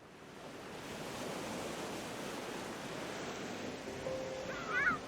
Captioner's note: waves crashing; delicate piano